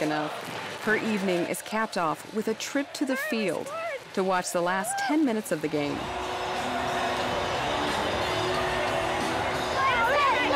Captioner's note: cheering